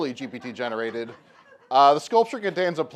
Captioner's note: laughter